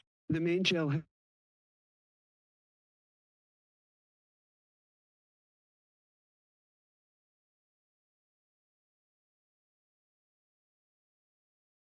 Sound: silence

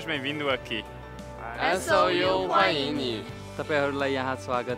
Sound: Mandarin

